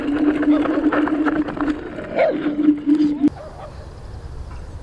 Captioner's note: polish dog barking: hau hau